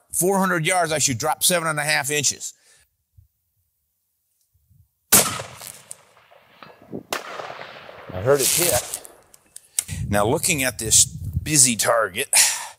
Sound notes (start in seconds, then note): 5.1 gun shot